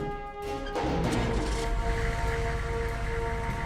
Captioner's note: motor starts